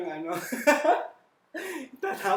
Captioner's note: laughs again